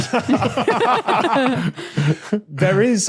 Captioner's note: group laughing